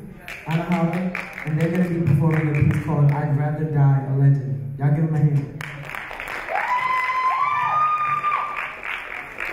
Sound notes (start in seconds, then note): 6.4 audience cheer